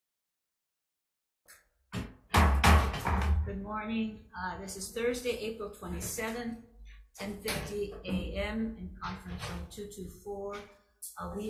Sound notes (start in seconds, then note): 1.9 gavel thudding